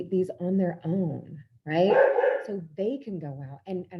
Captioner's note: dog barks